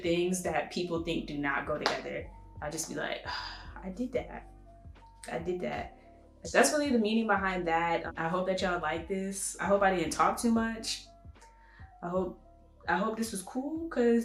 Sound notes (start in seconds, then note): 3.2 sigh of relief